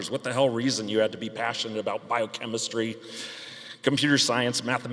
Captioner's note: none